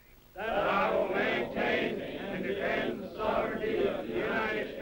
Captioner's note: repeating in unison